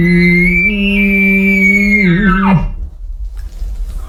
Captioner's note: elk bugle